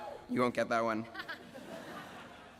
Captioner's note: laughing